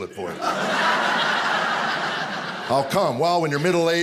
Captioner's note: audience laughing